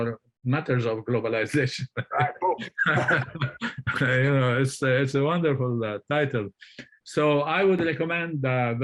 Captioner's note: laughter